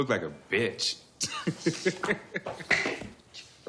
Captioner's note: laughs